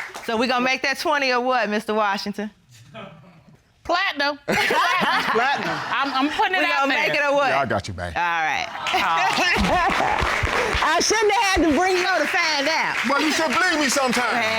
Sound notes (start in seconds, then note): 8.5 audience cheers, applauds; 8.6 laughs